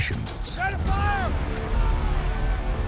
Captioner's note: man yelling commands; intense music